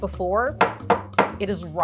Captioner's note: butter thudding